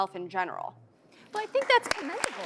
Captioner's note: audience clapping